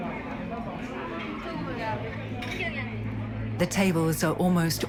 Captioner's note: chatter